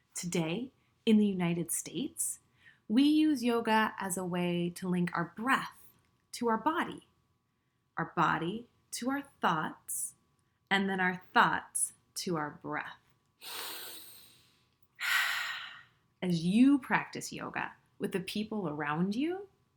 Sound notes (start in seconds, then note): 13.4 inhales deeply; 14.9 exhales deeply